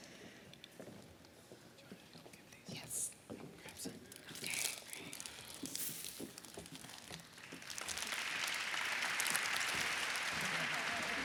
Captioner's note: applause